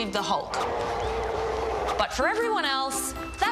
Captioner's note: roars